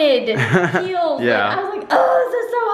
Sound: laughs

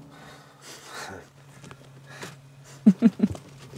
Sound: laughing

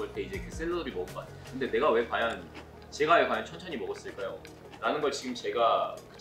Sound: actual scene / Chewing

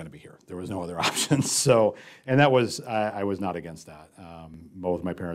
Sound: laugh

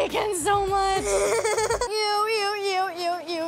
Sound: laughing

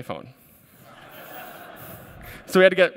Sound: laughter

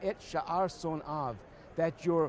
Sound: speaking Hebrew

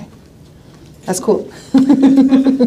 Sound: laughing

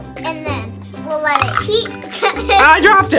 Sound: laughs

